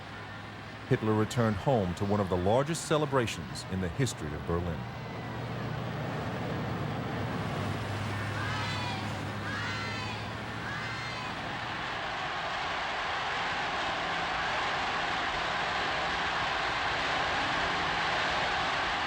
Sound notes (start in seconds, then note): 5.5 crowd cheering; 5.5 marching band music